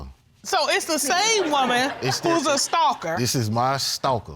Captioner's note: all laughing